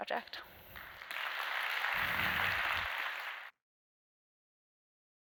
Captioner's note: applause